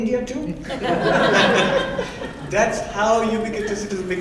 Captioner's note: laughing